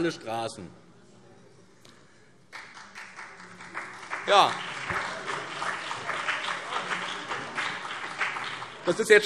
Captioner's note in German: Beifall BÜNDNIS 90/DIE GRÜNEN und vereinzelt CDU